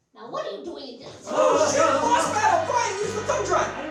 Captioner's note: shouts